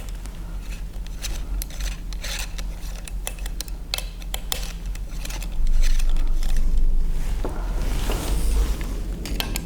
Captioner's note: clink clank screw noises